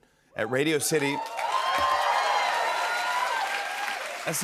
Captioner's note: cheers and applause